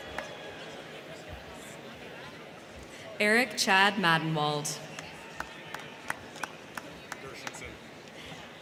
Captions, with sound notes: Eric Chad Maddenwald. (crowd clapping)